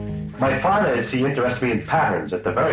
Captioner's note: voiceover